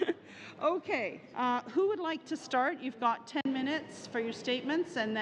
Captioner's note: laughter